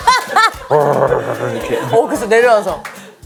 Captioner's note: the sound of climbing down a Durian tree